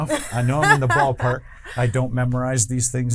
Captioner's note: laughs